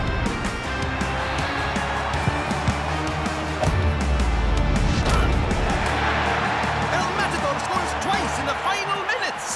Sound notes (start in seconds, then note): 1.0 crowd cheering